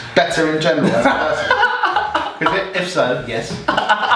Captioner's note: laughing